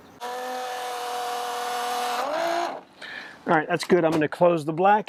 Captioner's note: pump roaring